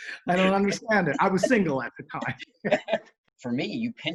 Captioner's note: laughs